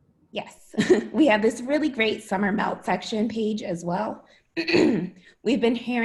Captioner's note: laughter